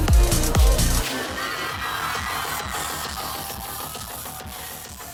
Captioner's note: audience cheers